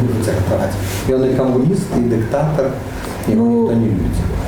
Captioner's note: scoffs